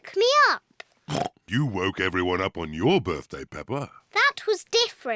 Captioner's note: oinks